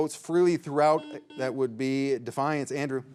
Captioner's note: signal beeps